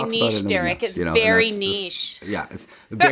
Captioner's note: laughs